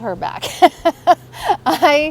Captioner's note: laughs